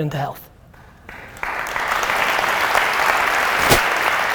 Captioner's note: applause